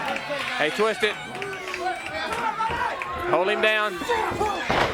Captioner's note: crowd chatter